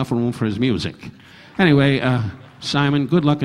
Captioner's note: audience applauding